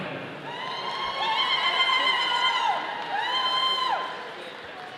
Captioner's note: audience cheering